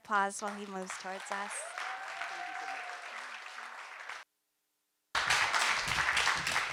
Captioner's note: audience cheer and applaud